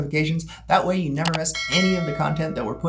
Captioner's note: bell dings